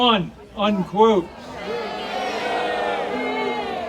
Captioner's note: audience cheering